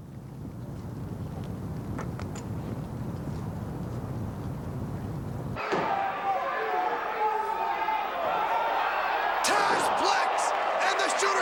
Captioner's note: crowd cheering